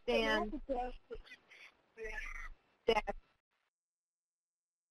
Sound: audio interference

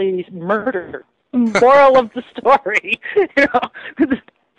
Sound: laughs

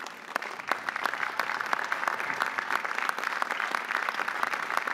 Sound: audience applauding

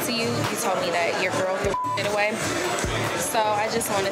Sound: beep

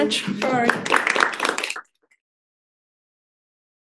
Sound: audience applauds

